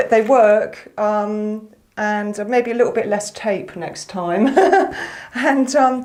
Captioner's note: laughter